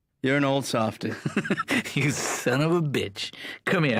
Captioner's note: chuckling